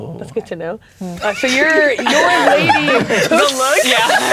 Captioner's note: players laughing